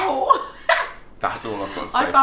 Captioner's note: laughs